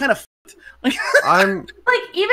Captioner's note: laughs